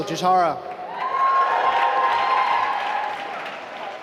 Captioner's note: applause